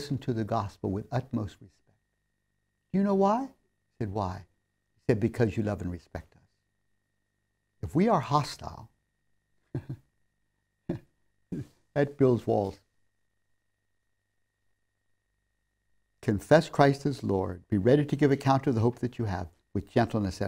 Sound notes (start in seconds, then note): 9.7 laughs